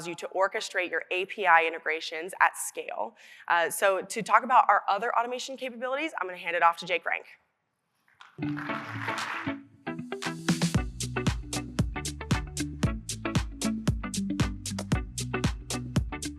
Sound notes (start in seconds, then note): 8.3 audience applauding; 9.9 upbeat music